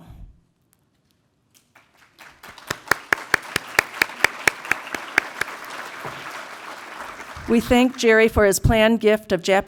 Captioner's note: applause